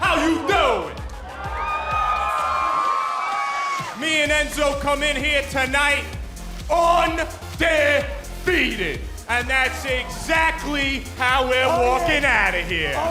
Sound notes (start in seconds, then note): 2.6 crowd cheering